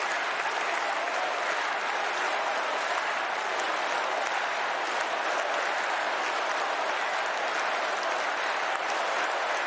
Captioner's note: cheers and applause